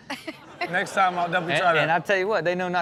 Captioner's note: audience laughs